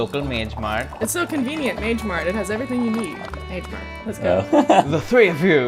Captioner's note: laughter